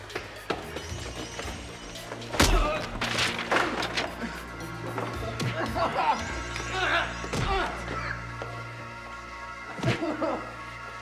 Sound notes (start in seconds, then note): 2.4 grunts; 5.4 groaning